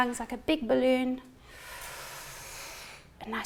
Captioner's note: breathing deeply